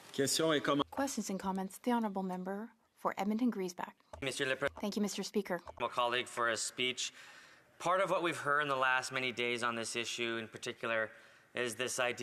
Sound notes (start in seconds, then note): 7.4 speaking French